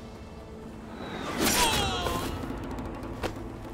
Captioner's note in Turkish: Ok sesi